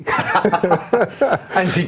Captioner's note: laughing